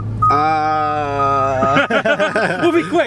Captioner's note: laughs